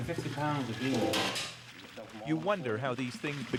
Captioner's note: dry beans rattle